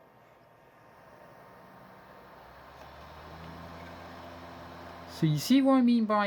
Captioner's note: laptop dvd drive spinning